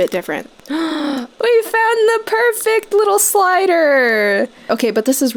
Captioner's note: gasps